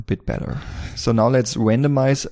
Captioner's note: air whooshing